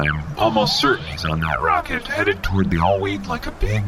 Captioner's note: exasperated